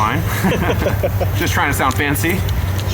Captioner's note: laughing